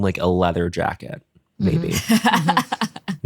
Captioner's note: laughs